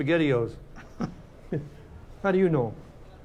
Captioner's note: both chuckling